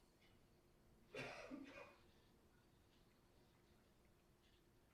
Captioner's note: coughs loudly